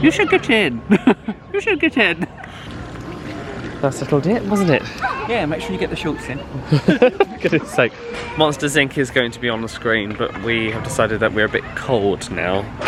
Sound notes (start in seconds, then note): 6.6 laughs